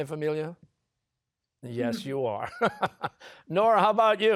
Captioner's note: laughs